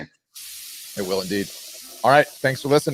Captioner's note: liquid pouring